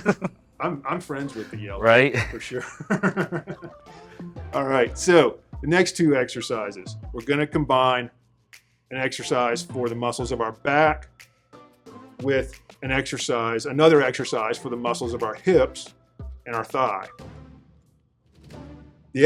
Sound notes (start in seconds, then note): 2.0 laughing sound